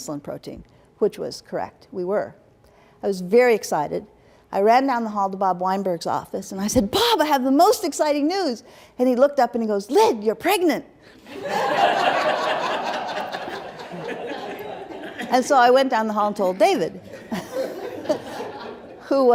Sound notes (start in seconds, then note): 11.2 laughter